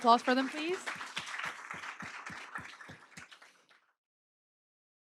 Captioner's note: applause